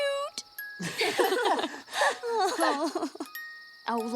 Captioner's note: laughing